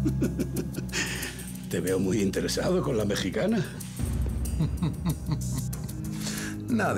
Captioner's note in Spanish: Risas